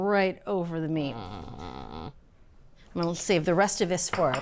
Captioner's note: groans